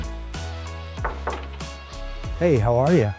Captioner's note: knuckles rapping